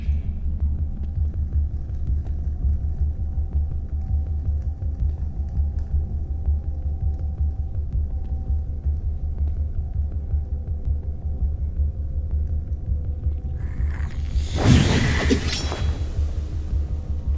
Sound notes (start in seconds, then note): 5.9 fire crackling; 13.6 whooshing